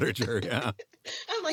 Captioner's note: laughter